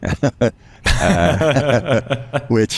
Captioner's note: laughs